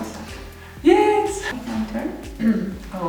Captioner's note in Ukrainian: звуки радості